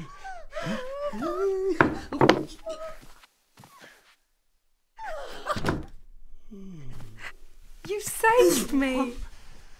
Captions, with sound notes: (whimpers) (thud) - You saved me!